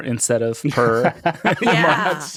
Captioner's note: all laughing